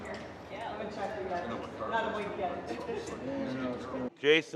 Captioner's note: crowd chattering